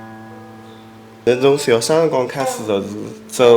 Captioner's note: wu Chinese